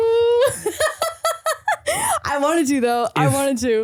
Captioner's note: laughs